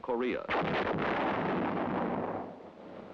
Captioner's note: howitzer booms